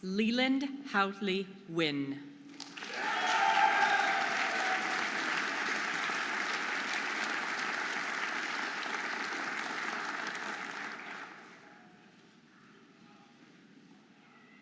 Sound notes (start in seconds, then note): 2.5 audience applauding and cheering